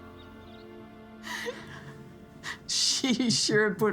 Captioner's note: chuckling